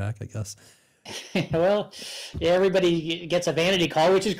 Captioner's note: chuckles